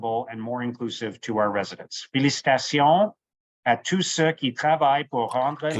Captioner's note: speaking French